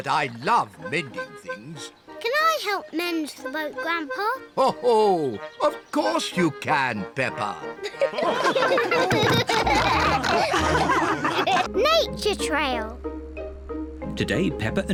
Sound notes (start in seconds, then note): 2.5 chuckles; 5.7 all laugh